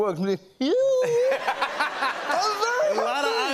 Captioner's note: laughter